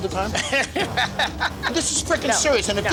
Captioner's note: laughter